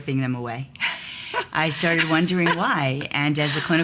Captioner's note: woman laughs